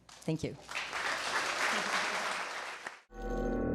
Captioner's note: audience applause